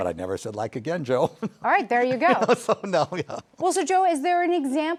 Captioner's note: chuckles